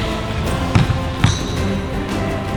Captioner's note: upbeat orchestral music; ball bounces